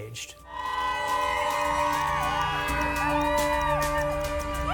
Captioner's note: group screaming